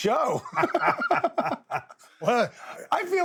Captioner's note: both laugh